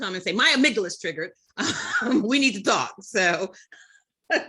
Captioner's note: chuckles; laughs